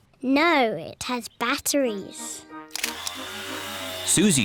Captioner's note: whirring